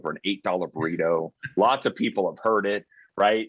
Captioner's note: chuckling